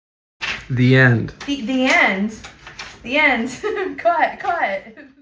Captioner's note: laughs